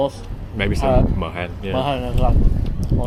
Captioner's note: speaking Vietnamese